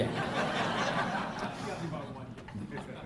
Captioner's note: laughter